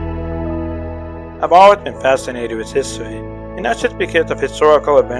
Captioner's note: voiceover